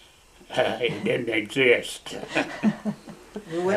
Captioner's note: laughter